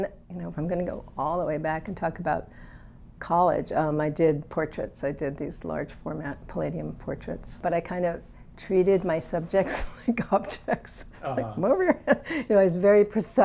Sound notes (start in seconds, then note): 11.1 laughs